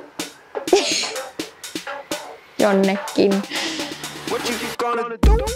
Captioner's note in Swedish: skrattar